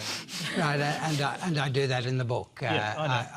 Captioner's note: laughter